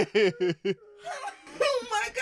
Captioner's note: laughs